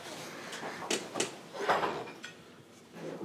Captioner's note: dishes clatter